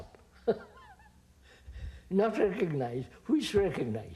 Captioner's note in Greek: γέλια